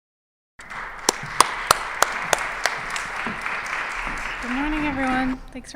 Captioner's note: applause